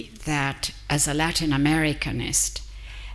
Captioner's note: none